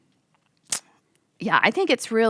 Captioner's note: clicks tongue